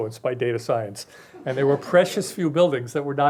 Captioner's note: crowd laughing